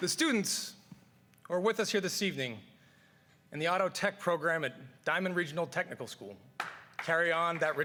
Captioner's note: cheers and applause